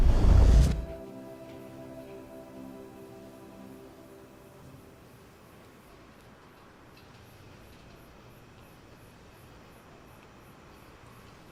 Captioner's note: no audio